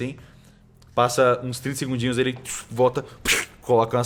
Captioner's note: pshh